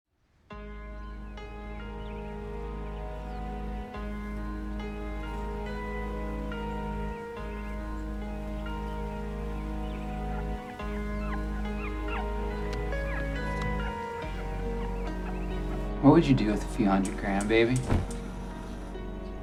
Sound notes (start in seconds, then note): 0.6 gentle piano music; 10.5 puppies crying